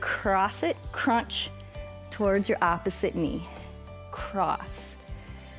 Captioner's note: inhales and exhales